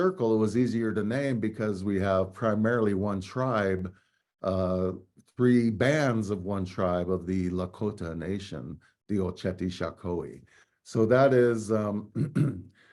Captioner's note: speaking native language